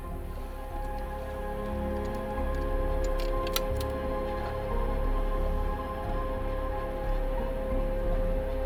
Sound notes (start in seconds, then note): 0.0 somber music; 3.6 metallic rattling